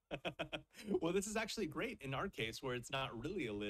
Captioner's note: laughs